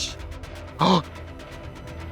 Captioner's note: Trixie gasps